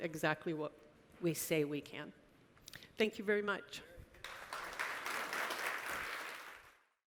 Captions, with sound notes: exactly what we say we can. Thank you very much. (audience applauds)